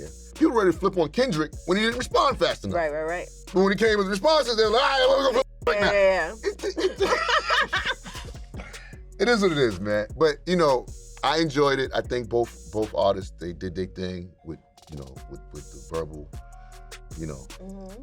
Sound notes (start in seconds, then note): 4.9 mumbles; 6.5 both chuckling; 6.7 mumbles